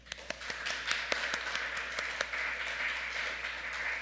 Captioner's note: audience clapping